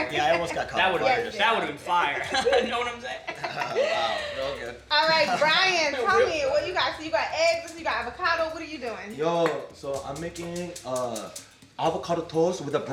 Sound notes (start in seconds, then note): 2.0 laughs